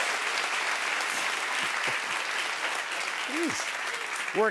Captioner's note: cheers and applause